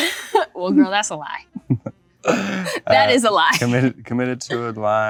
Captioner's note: laughs